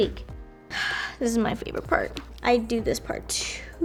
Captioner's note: sighs